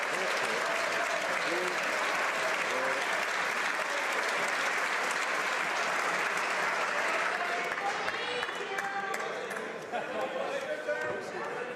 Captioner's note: some Applause